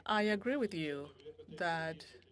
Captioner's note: speaking French